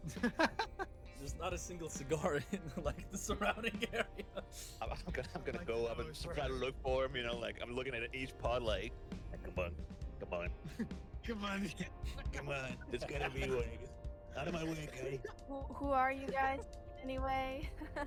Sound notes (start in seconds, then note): 0.2 laughs; 11.2 giggles; 11.9 laughs; 17.6 laughs